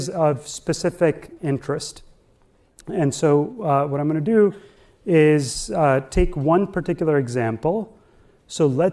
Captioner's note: none